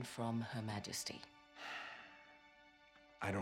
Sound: sigh

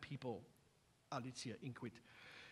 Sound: non-english speech

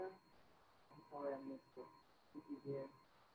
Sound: speaking faintly

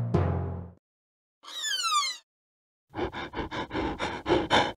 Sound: sad tako noises

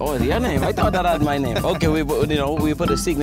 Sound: laughs

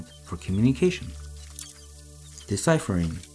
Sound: mouse chirping

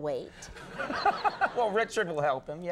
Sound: Conan laughing

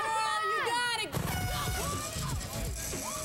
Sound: horn toots

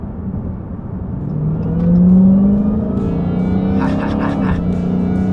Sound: car engine roaring; laughs

